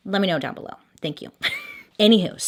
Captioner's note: chuckles